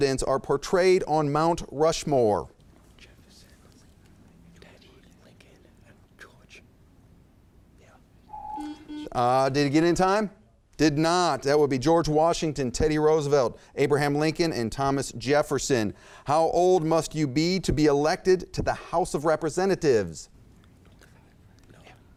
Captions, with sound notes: are portrayed on Mount Rushmore? - Jefferson. - Lincoln. - Teddy, Lincoln, and George. - Yeah. (buzzer chimes) (timer beeps) - Did he get it in time? Did not, that would be George Washington, Teddy Roosevelt, Abraham Lincoln, and Thomas Jefferson. How old must you be to be elected to the House of Representatives? - 25, right? - No. - Yeah.